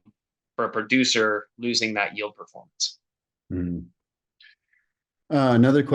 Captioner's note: hmm